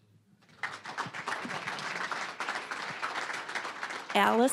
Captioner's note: applause